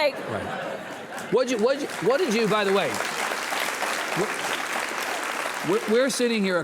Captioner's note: audience applauds